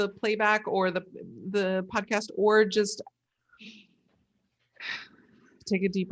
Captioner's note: inhales and exhales